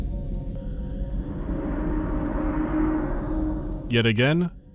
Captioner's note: foreboding ambient hum of unseen machinery in empty hallways; passing mechanical howl from an unknown source somewhere deeper in